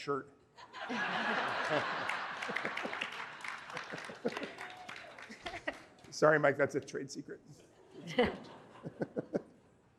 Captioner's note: laughter